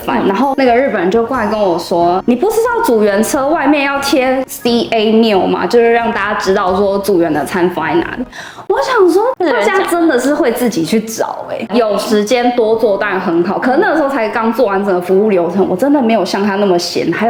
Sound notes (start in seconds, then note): 8.3 sigh